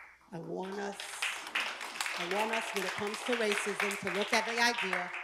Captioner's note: applause